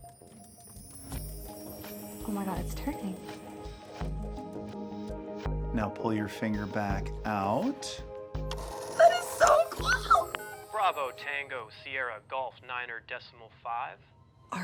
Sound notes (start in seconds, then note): 1.0 bright music; 8.5 phone whirs